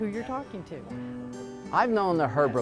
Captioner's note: group talking; acoustic guitar continues